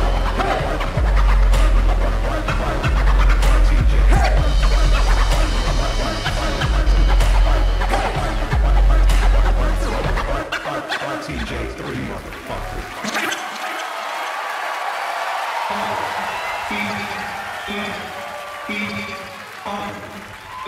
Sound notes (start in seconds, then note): 12.2 audience cheers; 17.6 midtempo hip hop music